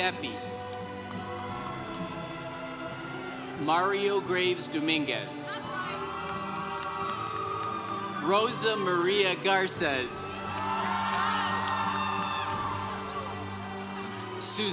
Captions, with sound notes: (congregation cheering) Mario Graves Dominguez. (congregation cheering) Rosamaria Garces. (congregation cheering)